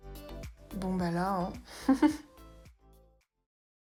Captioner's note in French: rires